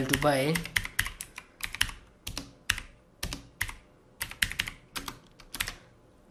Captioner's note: keyboard sound